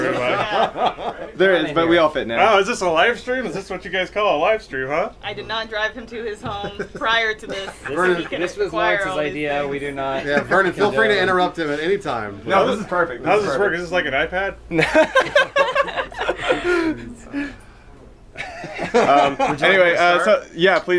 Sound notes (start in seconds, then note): 14.8 laughing